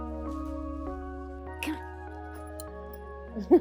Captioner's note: laughs